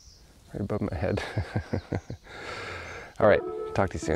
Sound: chuckles

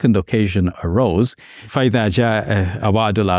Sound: speaks in Arabic

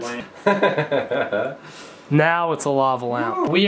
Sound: laughs

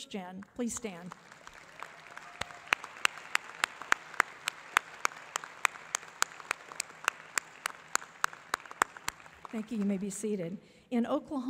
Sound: applause

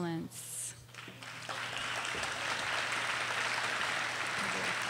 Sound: audience applauding

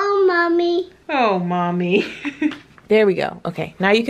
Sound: laughter

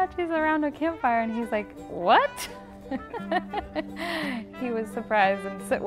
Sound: laughs

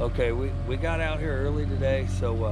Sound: boat engine running

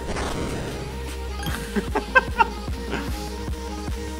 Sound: happy monkey sound

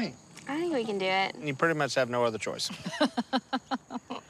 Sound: laughing

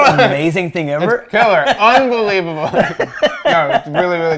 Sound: laughing

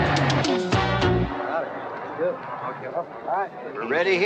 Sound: men chatting

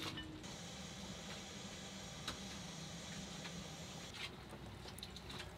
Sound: pot contents bubbling

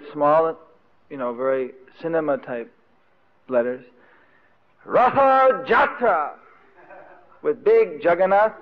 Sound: devotees laughing

